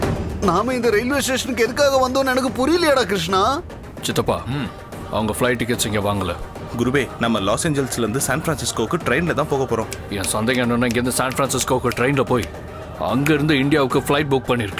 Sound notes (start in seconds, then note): 9.8 snaps finger